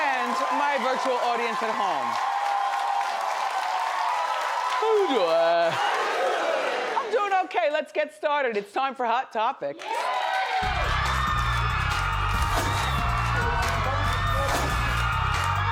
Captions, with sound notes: And my virtual audience at home. How you doin'? (audience all speaking) - How you doin'? - I'm doin' okay, let's get started it's time for Hot Topics. (smooth music) (audience cheering)